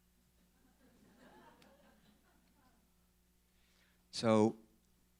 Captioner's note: laughing